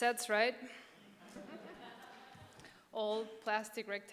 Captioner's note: audience chuckling